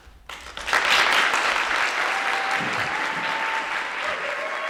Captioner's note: audience clapping